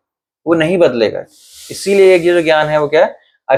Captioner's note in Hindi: नाक से की जाने वाली आवाज़